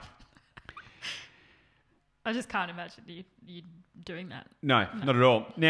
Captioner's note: laughs